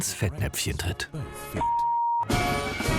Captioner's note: beep; dramatic music